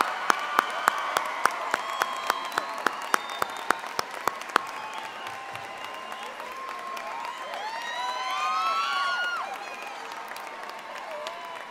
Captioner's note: applause